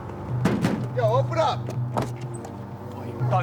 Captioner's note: knocks on door